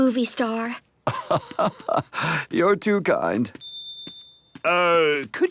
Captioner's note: laugh